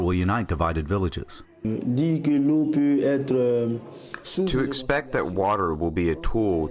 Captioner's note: through translator